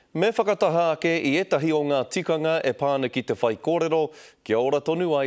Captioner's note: formal speech-making